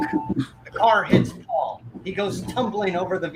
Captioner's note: gasps